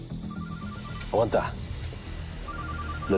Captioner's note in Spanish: Suena el celular